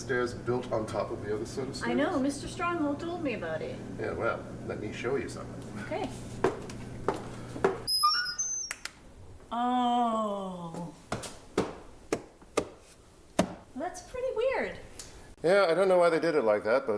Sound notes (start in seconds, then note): 7.8 door creaking; 12.1 hand tapping